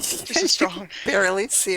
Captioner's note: laughter